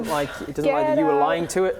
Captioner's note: none